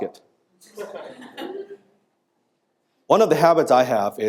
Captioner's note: audience laughing